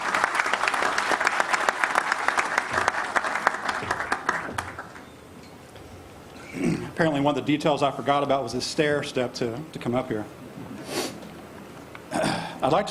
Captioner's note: applause